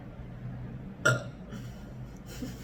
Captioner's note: burps